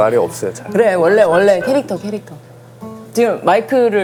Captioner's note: crowd mumbling